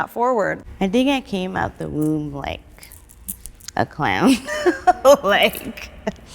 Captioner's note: laughs